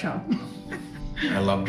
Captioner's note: chuckles